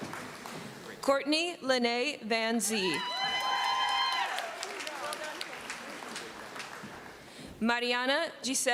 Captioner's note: cheering